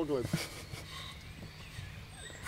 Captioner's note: laughter, background music